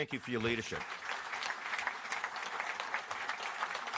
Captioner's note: applause